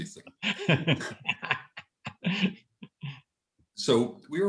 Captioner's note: laughter